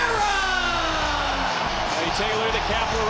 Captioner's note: audience cheers; upbeat music